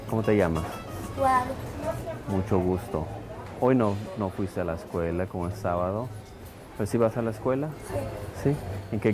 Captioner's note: speaking Spanish